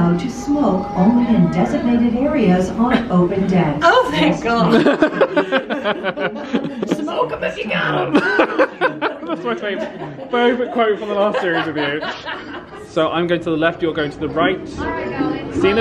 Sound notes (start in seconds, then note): 4.7 laughing